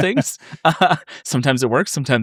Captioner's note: laughing